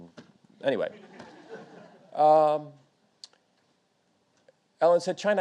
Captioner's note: audience laughing